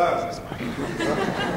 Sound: laughter

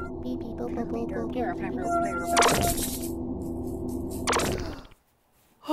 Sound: alien language noises; alien background noises

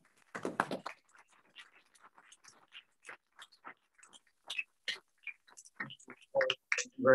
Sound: applause

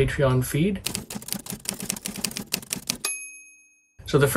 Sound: typewriter keys clacking

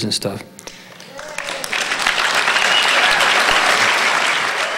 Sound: audience applauding

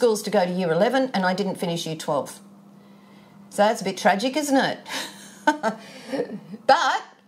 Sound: chuckles

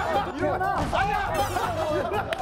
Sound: thump

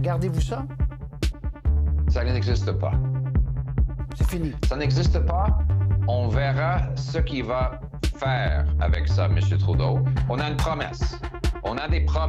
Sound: speaking French

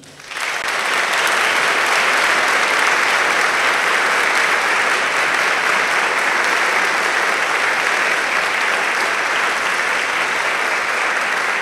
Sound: applause

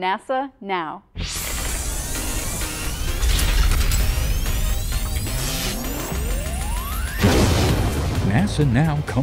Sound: sound Effects

